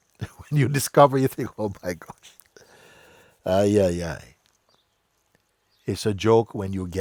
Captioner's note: laughs